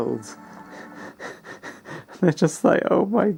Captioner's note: perturbing laugh